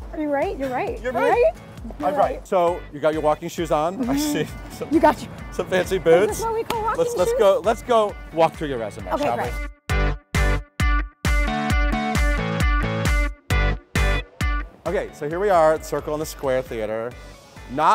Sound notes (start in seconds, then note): 3.9 laughing; 10.0 upbeat Music